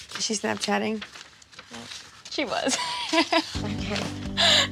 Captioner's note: chuckles